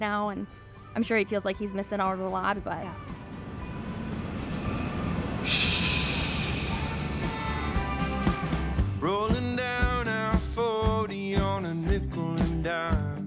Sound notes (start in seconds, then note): 3.0 country music; 5.9 sighs